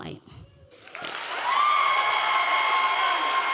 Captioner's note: audience cheering